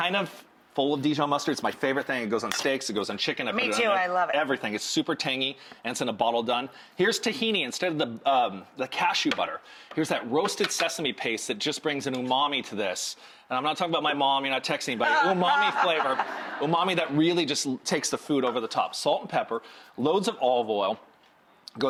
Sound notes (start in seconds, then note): 15.1 audience laughing